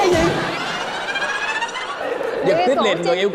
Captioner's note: laughter